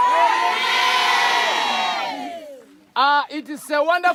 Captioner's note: shouting